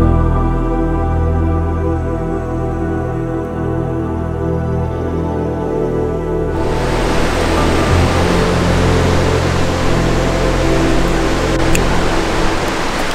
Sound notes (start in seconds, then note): 6.5 water rushing; 7.5 peaceful music